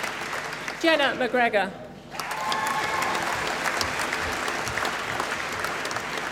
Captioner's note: applause